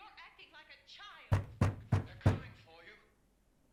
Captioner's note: loud rapping on door